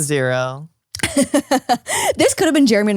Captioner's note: laughs